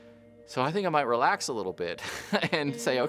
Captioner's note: laughs